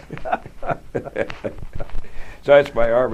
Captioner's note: laughter